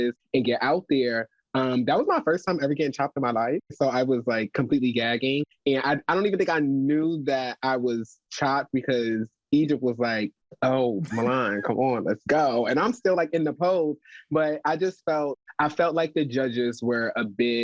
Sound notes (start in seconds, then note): 11.0 chuckles